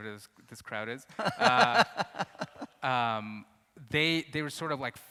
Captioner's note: interviewer laughs